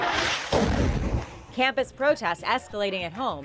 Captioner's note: air whooshes; explosion booms